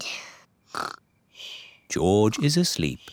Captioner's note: snores